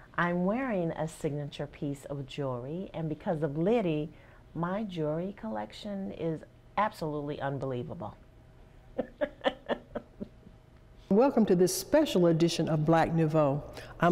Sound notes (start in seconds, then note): 8.9 laughing